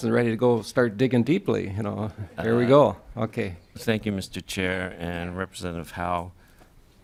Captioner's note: laughing